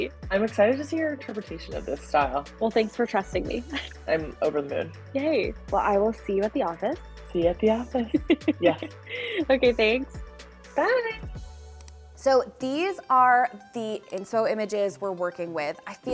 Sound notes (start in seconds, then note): 3.7 chuckling; 7.9 laughing